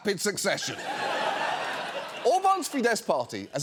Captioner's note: audience laughing